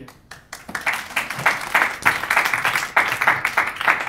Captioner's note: clapping